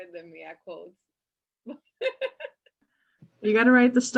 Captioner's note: laughs